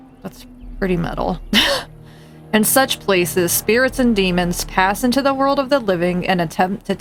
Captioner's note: laughs